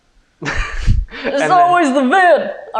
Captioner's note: southern accent